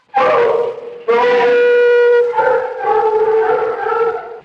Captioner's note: screams; dogs howling